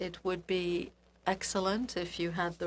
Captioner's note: speaking French